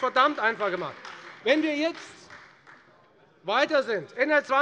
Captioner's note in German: Beifall Freie Demokraten